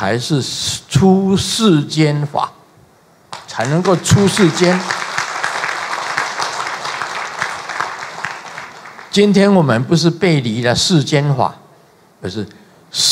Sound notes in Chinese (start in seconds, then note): 6.7 眾鼓掌